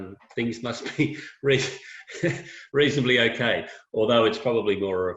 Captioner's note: laughing